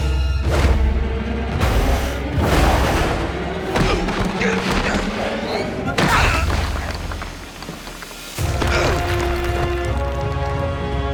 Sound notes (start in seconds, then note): 2.5 grunting; 8.5 grunting